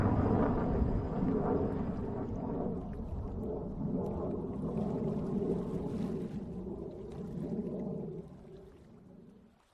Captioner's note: rocket launch; rocket launch fade out